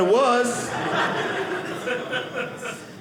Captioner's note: audience laughing